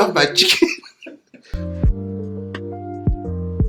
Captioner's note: laughing